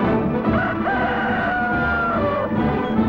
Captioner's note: rooster crow